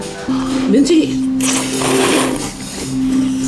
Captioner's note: sluuuurp